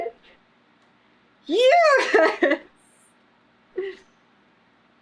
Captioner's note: laughs